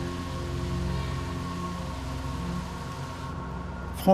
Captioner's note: water flowing